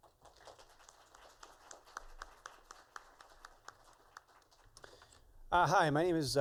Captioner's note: applause